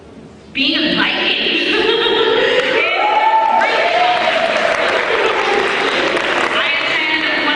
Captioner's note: cheering